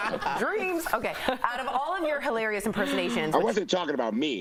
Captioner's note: laughter